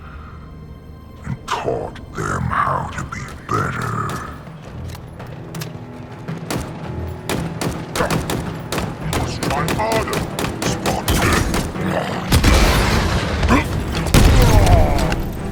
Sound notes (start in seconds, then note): 4.4 gunfire fades in; 10.7 grunts